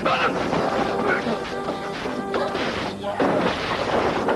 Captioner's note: coughing and sputtering